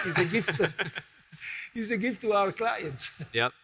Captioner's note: all laugh